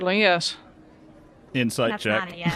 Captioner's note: laughs